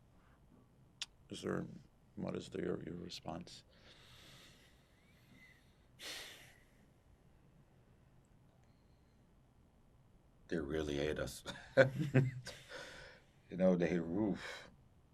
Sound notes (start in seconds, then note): 11.5 laughing